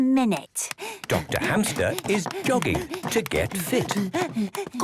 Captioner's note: panting